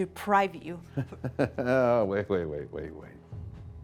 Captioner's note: laughs